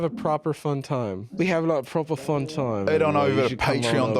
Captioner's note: britishly